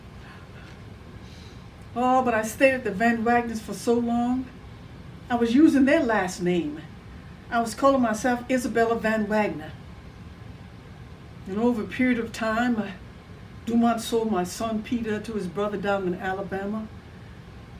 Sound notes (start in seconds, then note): none